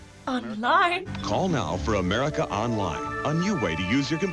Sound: voice-over

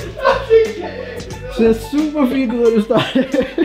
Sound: inhales

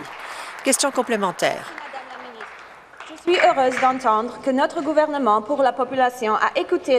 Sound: applause

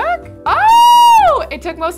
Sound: girl yells

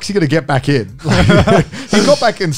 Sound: all laughing

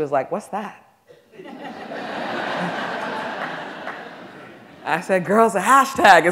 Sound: audience laughing

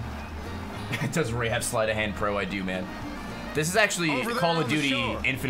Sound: laughs

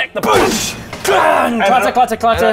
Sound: booosh! clangggg!

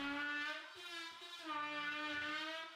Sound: tool buzzing

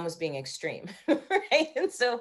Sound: laughing

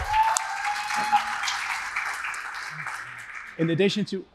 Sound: cheering; applause

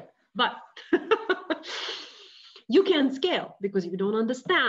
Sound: laughing

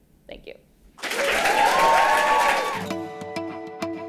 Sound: applause

